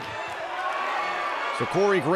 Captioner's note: cheers and applause